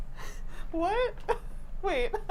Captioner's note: laughs